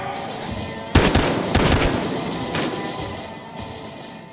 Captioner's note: gun shooting